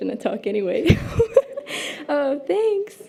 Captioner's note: laughs